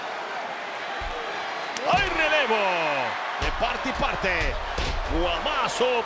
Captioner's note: applause